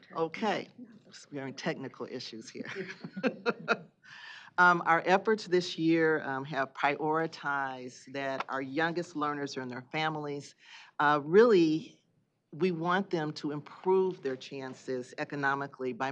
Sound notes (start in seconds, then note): 2.7 chuckling